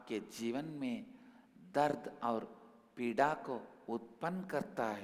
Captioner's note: hindi